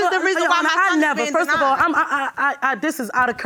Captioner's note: stammering